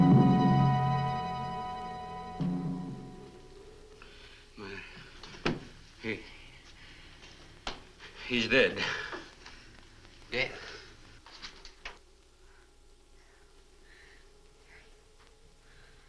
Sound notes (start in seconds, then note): none